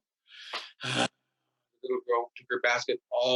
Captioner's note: deep sigh